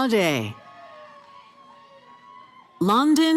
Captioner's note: cheering